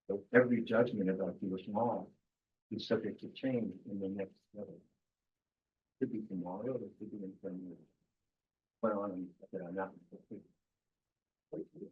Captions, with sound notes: So every judgment about Jewish law is subject to change in the next level. Could be tomorrow (speaking faintly).